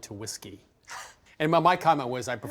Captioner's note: chuckles